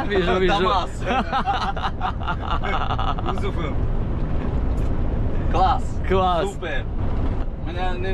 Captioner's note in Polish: śmiech